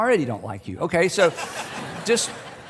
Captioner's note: laughter